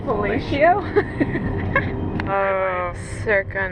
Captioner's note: laughing